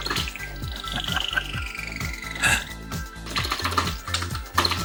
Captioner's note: laughing